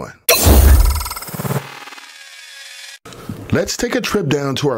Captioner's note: metal resonating